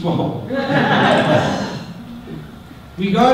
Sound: audience laughter

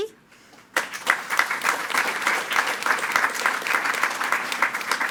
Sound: attendees clapping

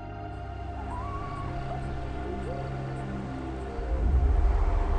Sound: animals calling

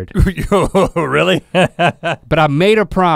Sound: laughs

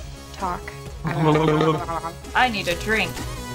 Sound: bubbling sound

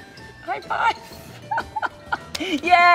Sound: chuckles

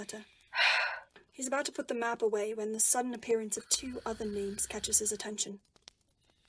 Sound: he sighs

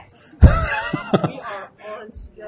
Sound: laughs

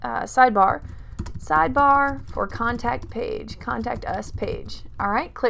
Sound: typing

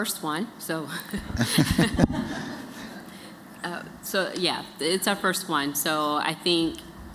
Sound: laughter

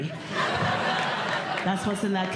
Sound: audience Laughing

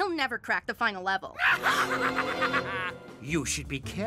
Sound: evil laughter

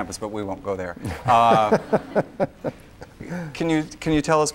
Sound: laughs

